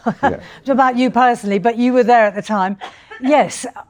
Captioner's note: laughs